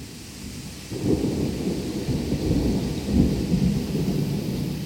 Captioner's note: thunder, rain